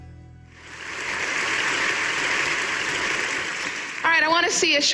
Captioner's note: audience applauding